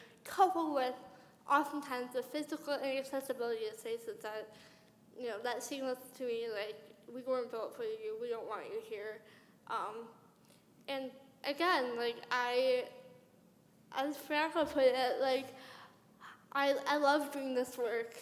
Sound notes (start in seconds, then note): none